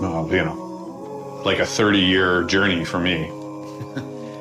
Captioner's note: chuckles softly